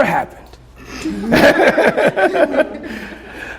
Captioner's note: laughter